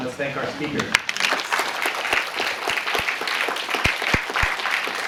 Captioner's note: applause